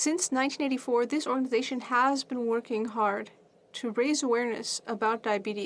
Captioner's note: speaking French